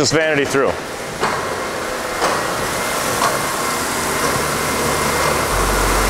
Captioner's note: whirring noises; music, whirring noises